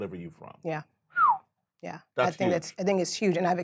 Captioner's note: whistles